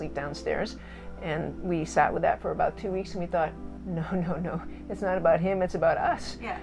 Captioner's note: gigles